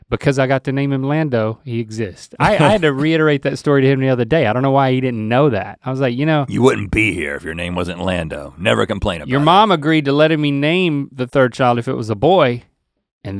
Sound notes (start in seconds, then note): 2.4 chuckles